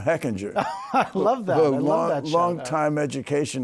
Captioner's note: laughs